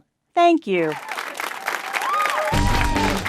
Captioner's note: applause; upbeat guitar sting